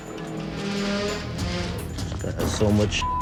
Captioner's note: beep